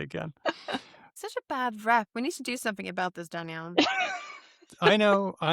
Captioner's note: laughs